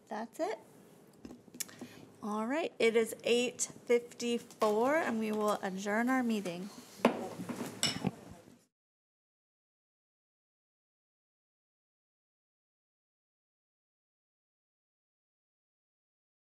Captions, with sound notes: That's it. All right. It is 8:54 and we will adjourn our meeting. (gavel thuds)